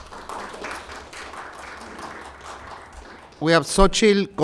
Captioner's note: applause